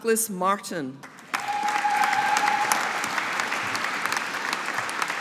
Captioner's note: audience applauding